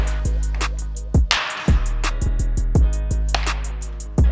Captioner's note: ball hits